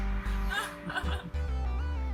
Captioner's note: while laughing; laughs